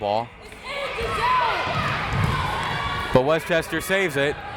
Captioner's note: crowd members shouting